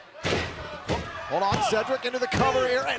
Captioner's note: fans chanting